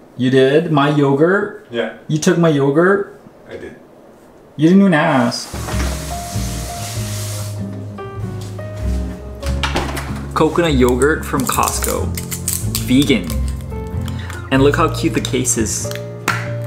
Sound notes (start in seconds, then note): 9.4 refrigerator door closing